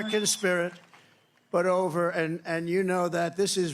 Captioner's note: cheering